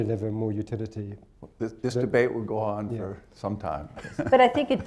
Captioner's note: laughs